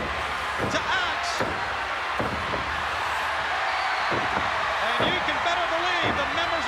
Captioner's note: applause